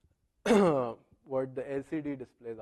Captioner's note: cough